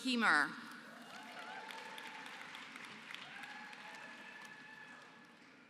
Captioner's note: applause